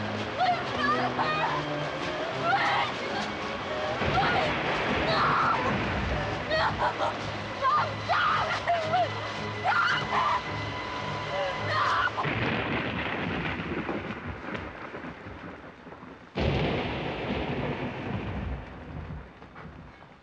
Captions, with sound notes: Please stop her, please. No, no. Stop! Stop her! No! (thunder blasting)